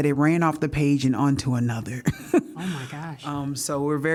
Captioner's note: laughter